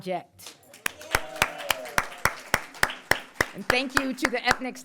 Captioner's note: crowd applauds